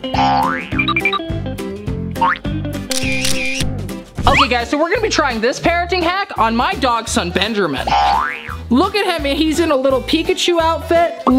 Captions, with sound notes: (boing) (camera clicking) - Okay guys, so we're gonna be trying this parenting hack on my dog son Benjamin. Look at him. He's in a little Pikachu outfit.